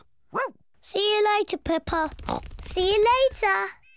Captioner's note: barks; oinks